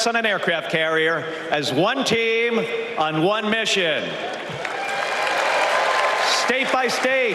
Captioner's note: applause